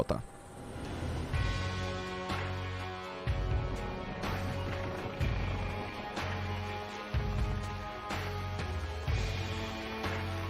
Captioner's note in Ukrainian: інтенсивна музика; гуркотіння лопатей вертольота